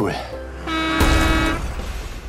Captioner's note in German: Hupen